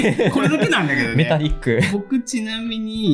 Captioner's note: laughs